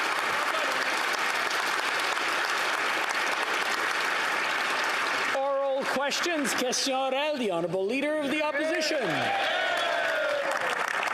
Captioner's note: some Applause